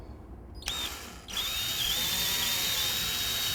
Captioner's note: drill whirs and screeches